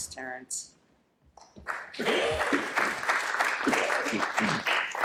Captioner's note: applause